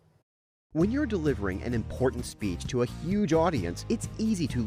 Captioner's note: voice-over